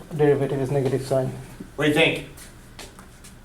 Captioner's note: voiceover